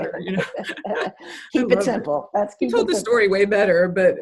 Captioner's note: both laughs